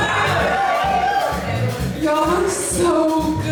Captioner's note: guests whooping and cheering